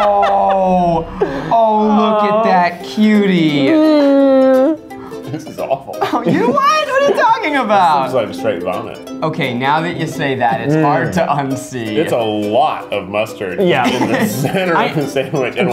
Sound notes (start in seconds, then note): 0.0 all laughing; 3.7 cooing